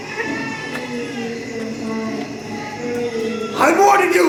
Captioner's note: wailing